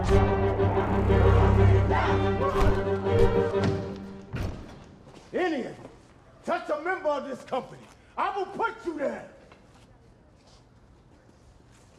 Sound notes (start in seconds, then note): 3.0 punch thud